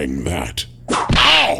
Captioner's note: whip crack!